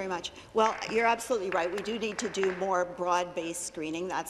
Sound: applause

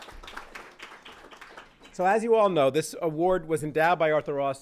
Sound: applause

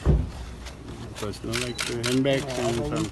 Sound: camera shutters clicking

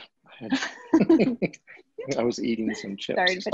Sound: laughing

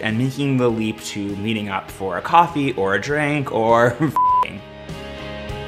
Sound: beep

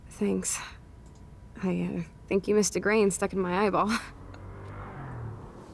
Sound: chuckles

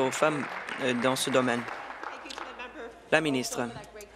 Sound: applause

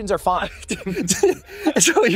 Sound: laughs

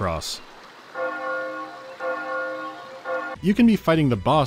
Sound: bell starts ringing

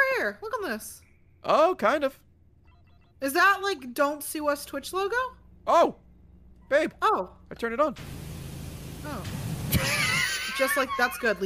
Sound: laughs

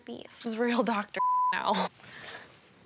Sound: beep

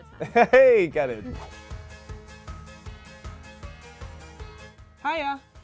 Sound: lively country-rock music; laughs; air whooshes

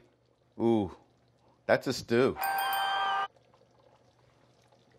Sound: dinging

